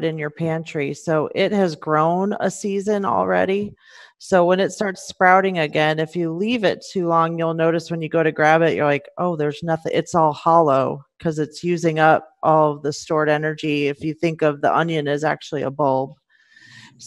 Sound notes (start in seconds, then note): none